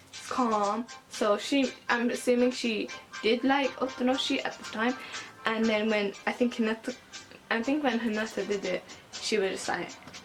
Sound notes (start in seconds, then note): 5.0 breathes in